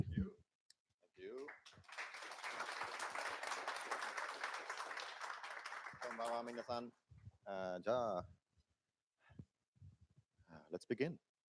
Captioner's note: speaking japanese